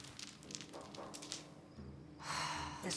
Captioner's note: beads clicking; sighs